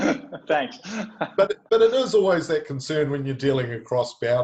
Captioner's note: laughing